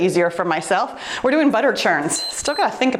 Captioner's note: timer beeps